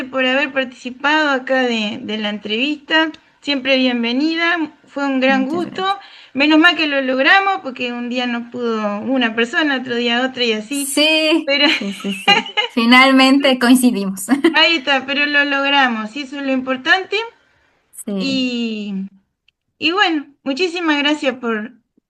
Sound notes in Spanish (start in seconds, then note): 11.6 risas